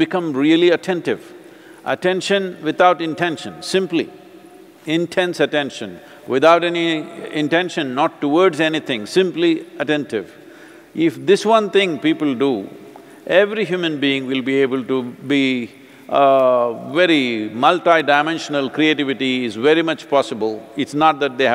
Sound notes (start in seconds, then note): none